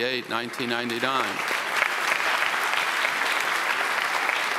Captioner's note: audience applauds